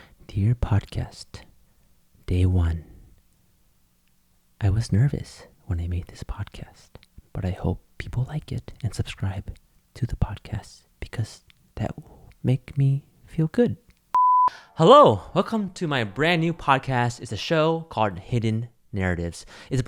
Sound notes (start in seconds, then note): 14.1 short beep